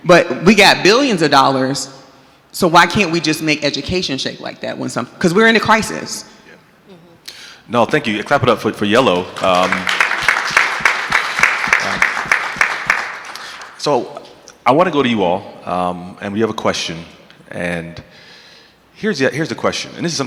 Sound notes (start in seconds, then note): 9.9 audience clapping